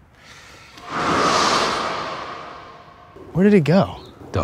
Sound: shimmering

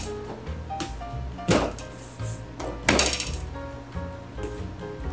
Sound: table rattling

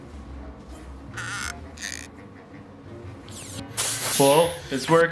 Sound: mouth creaks open; suspenseful playful music

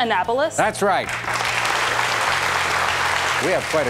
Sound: audience applauds

